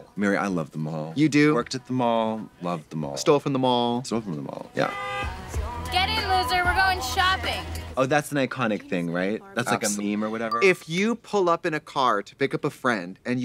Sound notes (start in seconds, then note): 4.8 horn honks